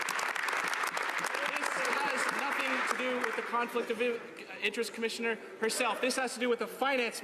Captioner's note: some Applause